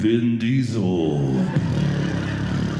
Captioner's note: audience laughing